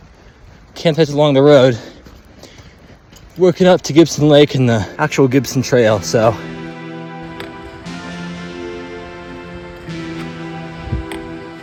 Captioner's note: footsteps